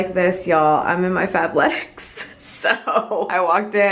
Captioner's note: chuckles